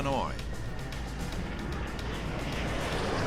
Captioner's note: jet engine noises